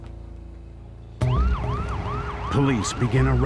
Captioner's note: siren wailing